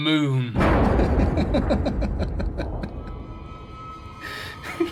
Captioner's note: maniacal Laughter